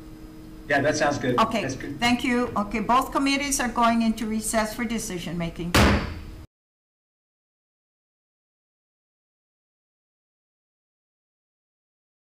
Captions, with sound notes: - Yeah, that sounds good. That's good. - Okay. Thank you. Okay. Both committees are going into recess for decision-making. (gavel bangs)